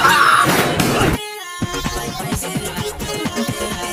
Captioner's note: laughing